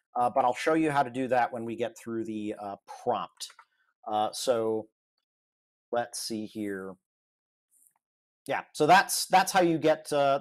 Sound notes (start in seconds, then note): none